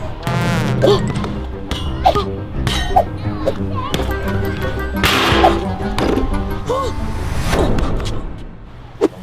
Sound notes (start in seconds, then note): 0.7 ball bouncing